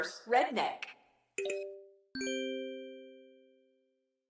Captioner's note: ding, chime